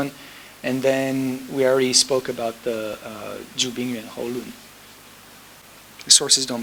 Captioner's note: speaking foreign language